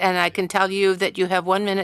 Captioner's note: speaking French